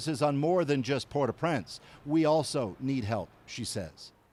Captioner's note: speaking alternate language